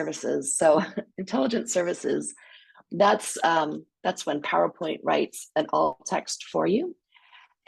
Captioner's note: laughs